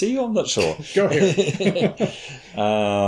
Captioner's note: chuckles